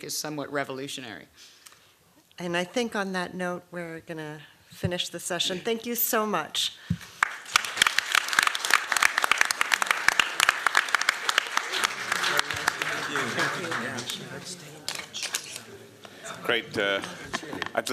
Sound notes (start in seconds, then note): 7.1 applause